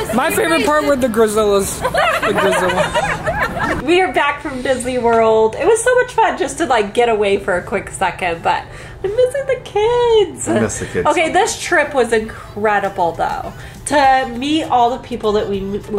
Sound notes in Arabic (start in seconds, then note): 1.7 يضحك